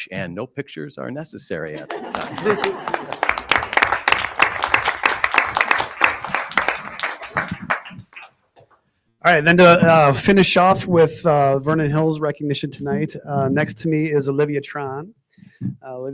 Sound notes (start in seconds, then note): 1.7 audience laughing; 1.8 audience applauding